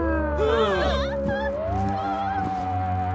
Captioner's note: groaning; frightened gasps